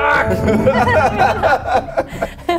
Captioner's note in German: Lachen